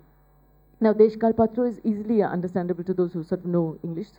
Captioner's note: speaking bengali